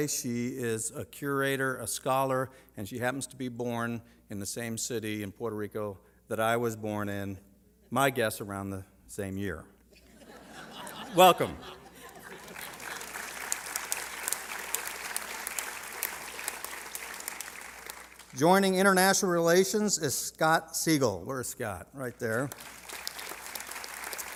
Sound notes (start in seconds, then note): 11.8 laughter; 16.4 applause